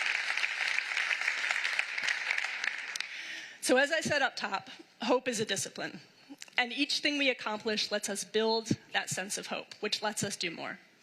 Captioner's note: applause